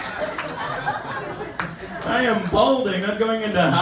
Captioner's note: laughter